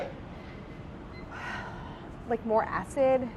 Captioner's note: sighs